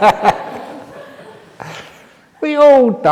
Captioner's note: laughter